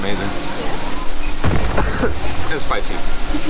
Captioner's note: coughing